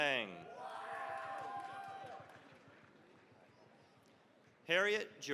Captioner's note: cheering, applause